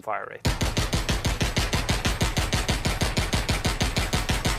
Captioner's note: gunshots